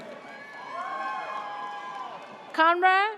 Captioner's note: audience cheers